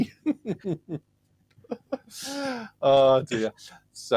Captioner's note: laughter